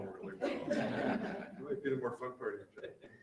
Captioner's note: group laughing